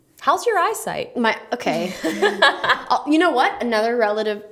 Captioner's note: laughs